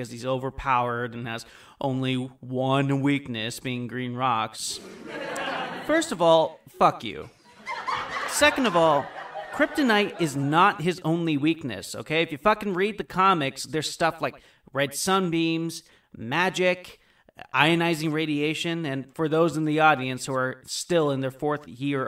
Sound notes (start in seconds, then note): 4.8 audience chuckle; 7.4 audience laughter